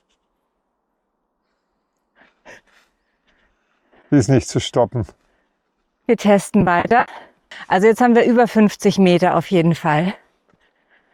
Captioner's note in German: schnauben